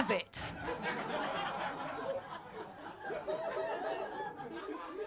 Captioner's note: audience laughing